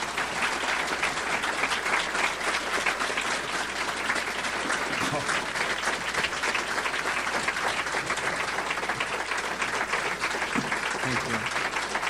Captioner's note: audience applauds